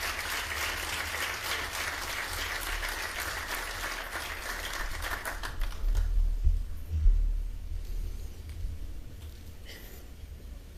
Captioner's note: applause